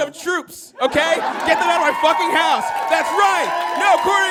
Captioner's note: audience cheers and applauds